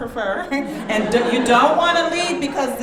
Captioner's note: audience laughing